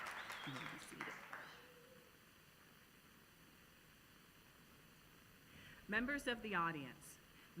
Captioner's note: applause